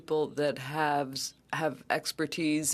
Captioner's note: speaking French